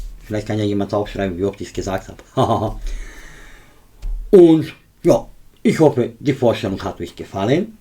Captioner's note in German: seufzt